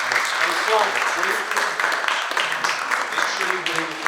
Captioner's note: audience applauding